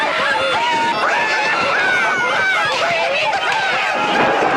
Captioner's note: Aplausos